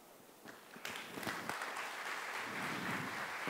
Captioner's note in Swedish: Applause